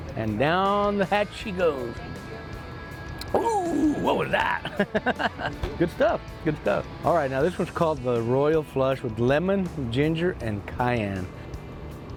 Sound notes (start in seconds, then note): 3.2 laughs